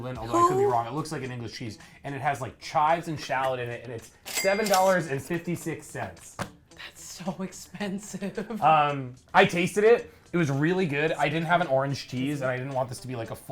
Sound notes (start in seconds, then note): 8.4 laughs